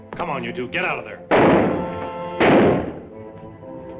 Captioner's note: gunshots